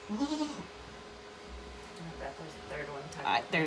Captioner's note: Maybel bleating